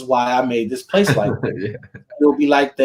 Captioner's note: laughing